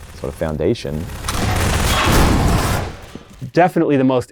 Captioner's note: loud gunshots